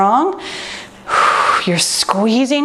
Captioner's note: exhales